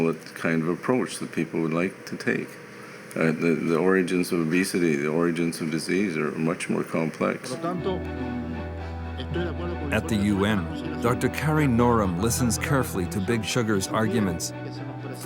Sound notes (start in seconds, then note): 7.7 man speaking in foreign language